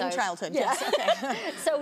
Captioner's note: laughs